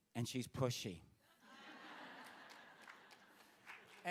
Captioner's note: laughter; applause